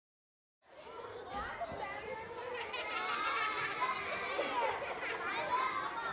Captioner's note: children laughing and talking playfully